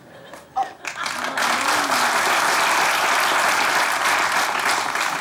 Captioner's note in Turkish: Alkış sesleri